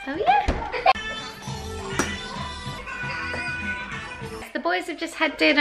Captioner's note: cartoons on TV